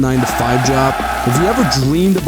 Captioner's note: crowd cheering